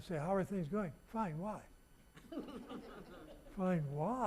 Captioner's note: audience laughing